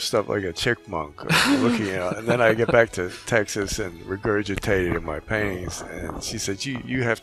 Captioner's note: laughing